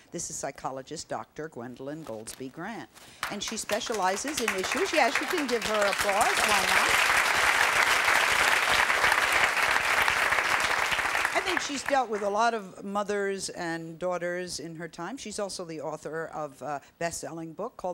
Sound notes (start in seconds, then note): 7.5 audience applause